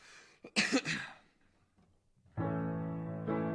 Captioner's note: coughs